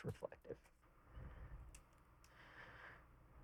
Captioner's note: clicking